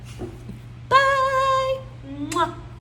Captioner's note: singsong